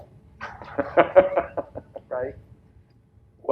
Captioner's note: laughs